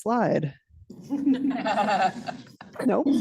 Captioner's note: laughter